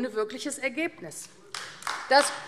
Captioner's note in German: Beifall AfD